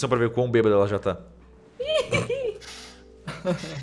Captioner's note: laughs